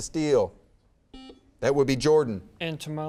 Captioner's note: buzzer beeps